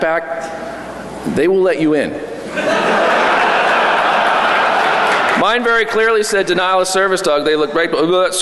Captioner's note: laughter